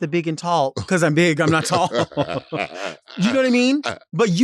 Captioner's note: chuckling